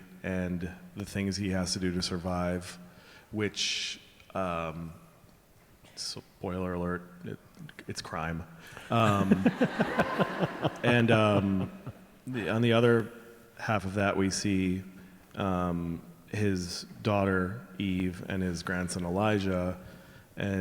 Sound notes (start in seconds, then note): 8.8 all laughing